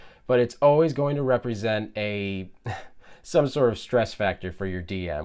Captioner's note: giggles